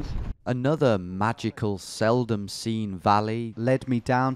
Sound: voiceover

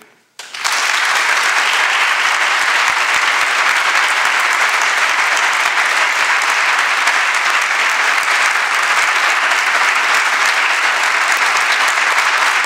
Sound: applause

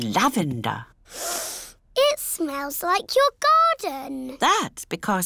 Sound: sniffs

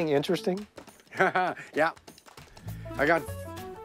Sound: laughter

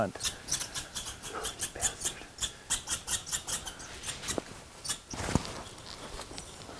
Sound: loud Chirping

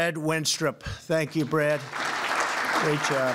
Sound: applause

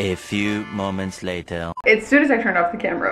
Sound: voiceover

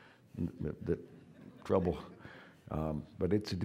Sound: audience laughing

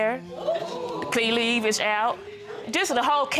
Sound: audience exclaiming

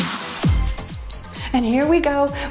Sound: timer beeps

